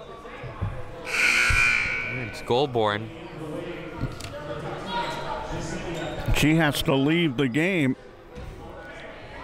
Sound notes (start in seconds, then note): 1.0 buzzer sounding